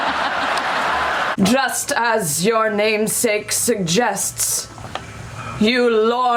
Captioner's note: dramatically